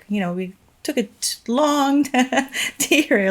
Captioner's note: chuckles